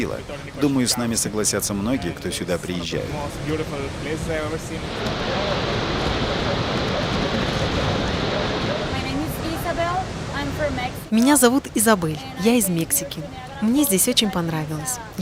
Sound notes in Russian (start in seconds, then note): 3.4 шум водопада; 8.6 английская речь